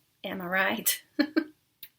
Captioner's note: laughing